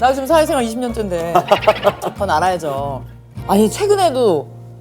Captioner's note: laughs